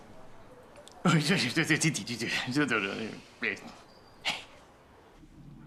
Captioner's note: uncle speaking gibberish